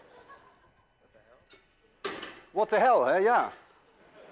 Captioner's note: laughter